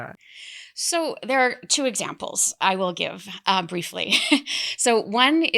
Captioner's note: chuckles